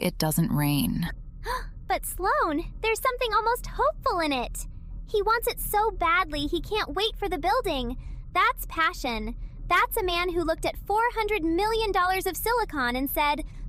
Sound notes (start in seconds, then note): 1.5 gasp